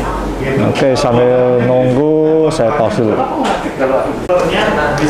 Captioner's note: distant chattering; dryer sound; distant chattering